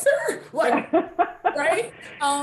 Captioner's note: laughing